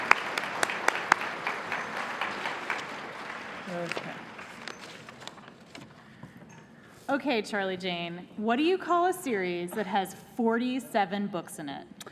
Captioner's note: cheers and applause